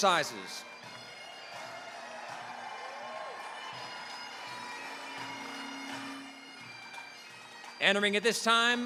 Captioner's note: bagpipe music; applause, cheering